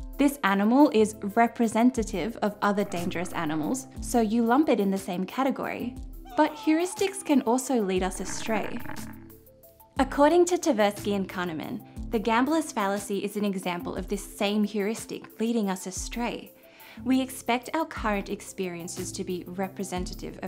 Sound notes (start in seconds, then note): 6.2 caveman screaming; 8.0 creature growling